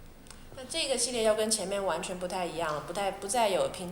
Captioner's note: Mandarin